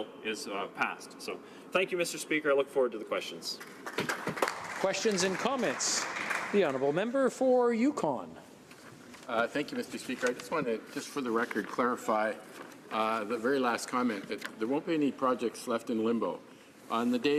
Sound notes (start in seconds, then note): 6.1 some Applause